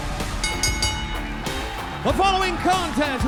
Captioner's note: bell ringing